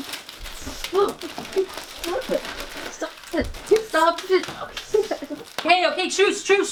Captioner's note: both laughing